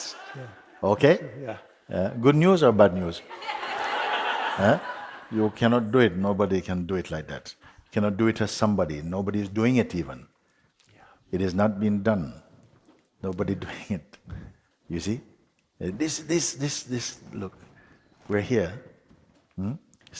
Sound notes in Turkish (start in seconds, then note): 3.3 Daha çok kahkaha